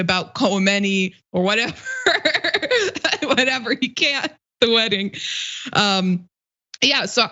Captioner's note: laugh